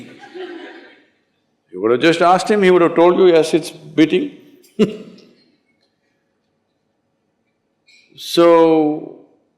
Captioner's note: laughter; laughs